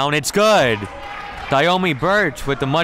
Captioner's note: crowd clapping